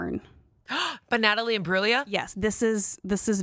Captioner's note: gasps